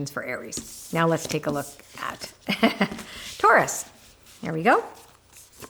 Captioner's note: laughs